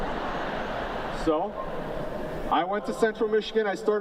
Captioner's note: laughter